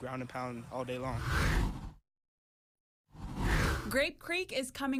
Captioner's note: air whooshes